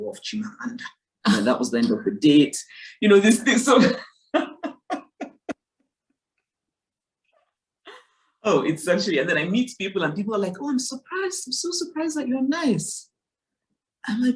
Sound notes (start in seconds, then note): 4.3 Chimamanda laughs